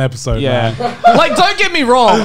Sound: laughs

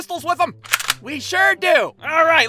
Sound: cocks the gun

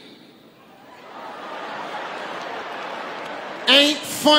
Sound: audience laughing

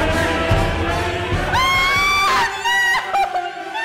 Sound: screaming

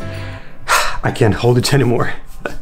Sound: sighs

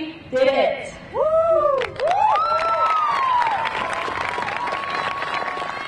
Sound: audience cheering and clapping

